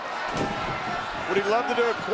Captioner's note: body thudding